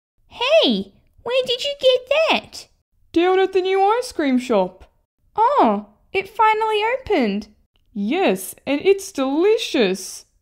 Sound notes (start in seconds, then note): none